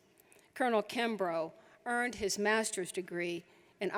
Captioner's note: none